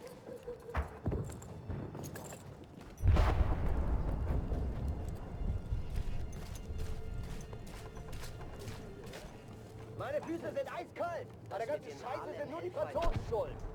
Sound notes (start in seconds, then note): 0.1 gun fires; 6.8 speaking German